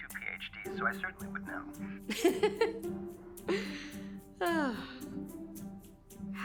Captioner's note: laughing